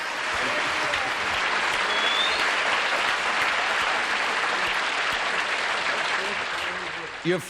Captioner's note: applause